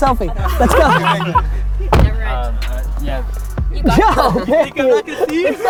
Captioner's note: laughs